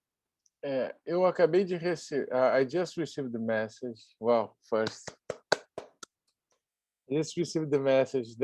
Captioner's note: claps